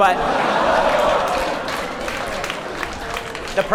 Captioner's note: crowd gasps and applauds